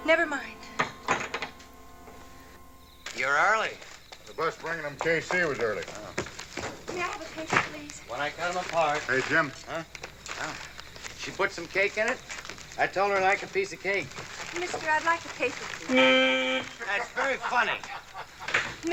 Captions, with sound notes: Never mind. You're early. The bus bringin' 'em case here was early. - Oh. - May I have a paper, please? - When I cut 'em apart. - Hey, Jim. Huh? Oh. Did she put some cake in it? I told her I'd like a piece of cake. Mister, I'd like a paper, please. [horn blares] That's very funny!